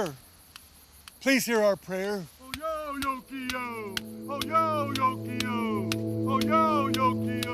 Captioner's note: chanting in Native language, tapping